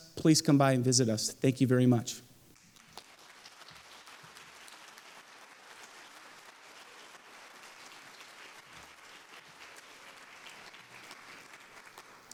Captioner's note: applause